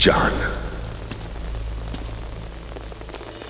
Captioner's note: Footsteps